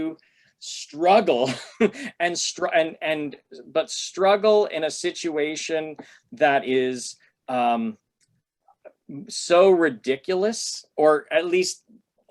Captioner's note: laughter